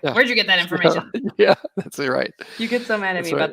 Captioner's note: laughs